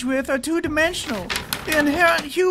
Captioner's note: pages flipping